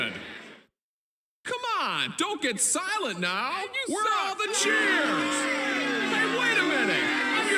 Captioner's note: boos